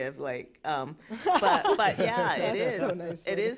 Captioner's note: laughter